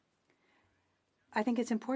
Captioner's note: speaking french